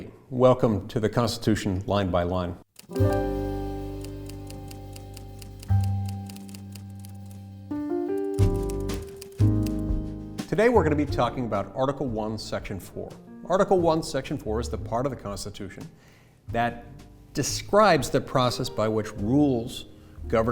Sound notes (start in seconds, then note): 3.2 soft instrumental music; 5.3 typewriter typing